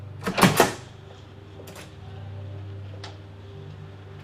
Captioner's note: door opening